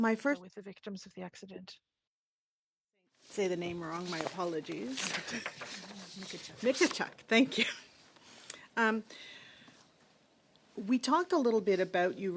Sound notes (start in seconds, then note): 4.2 speaking in French